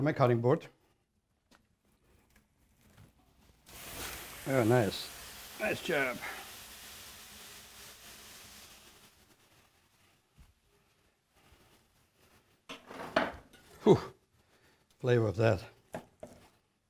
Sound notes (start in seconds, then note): 4.4 water splashing